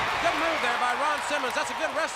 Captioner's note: crowd cheering